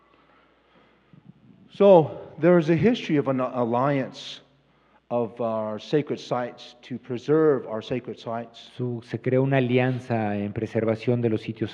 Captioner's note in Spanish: Expositor habla en inglés